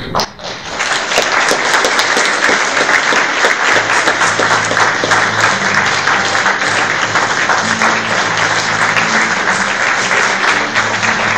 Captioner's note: applause